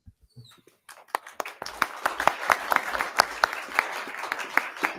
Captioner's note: attendees applauding